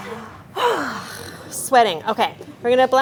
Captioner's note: sighs